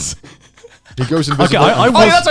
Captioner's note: laughing